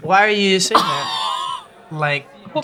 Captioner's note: laughs